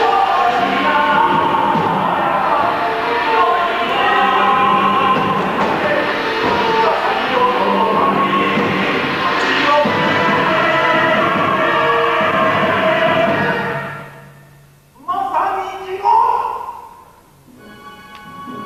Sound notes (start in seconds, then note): 12.4 aah!!